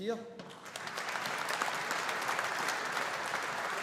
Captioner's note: audience applauding